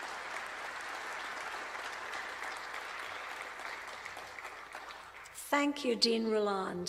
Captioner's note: applause